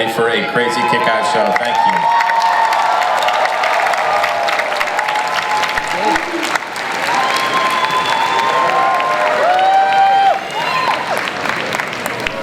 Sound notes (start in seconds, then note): 2.4 audience applauds and cheers